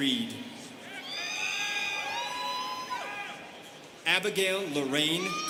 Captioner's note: students cheering